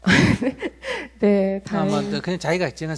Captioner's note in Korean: 웃음